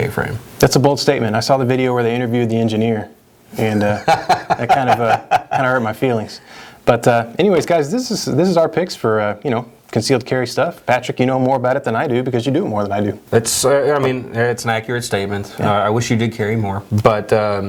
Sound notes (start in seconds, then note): 3.8 laughs